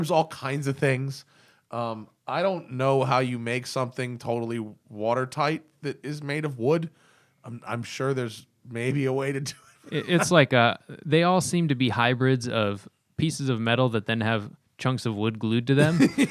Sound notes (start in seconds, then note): 9.5 laughter; 15.8 laughter